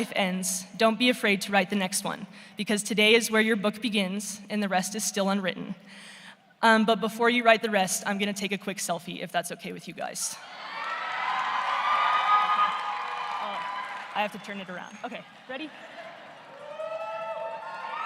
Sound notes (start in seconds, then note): 15.1 cheering